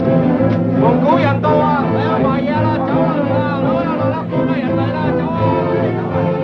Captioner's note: chattering in foreign language